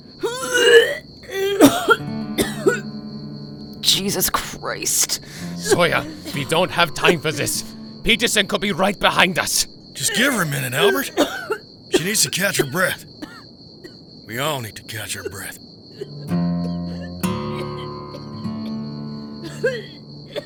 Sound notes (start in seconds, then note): 0.2 Emily vomiting and rasping; 10.7 Emily coughing; 13.2 Emily coughing